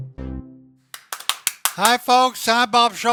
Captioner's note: hands clapping